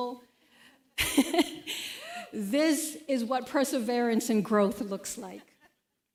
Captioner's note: chuckles